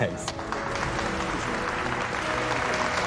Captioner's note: applause